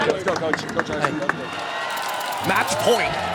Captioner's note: crowd cheering